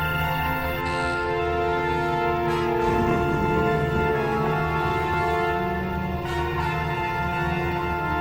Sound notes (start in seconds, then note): 0.8 door creaking; 3.0 zombie groaning